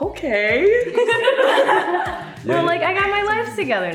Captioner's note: ladies laughing